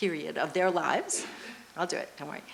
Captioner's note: loud coughing